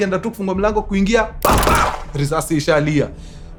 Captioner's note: gunshots